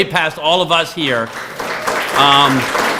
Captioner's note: applause